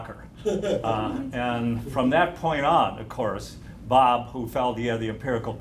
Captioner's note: laughter